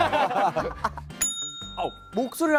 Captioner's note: ring